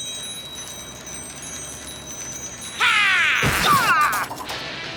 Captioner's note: bells jangling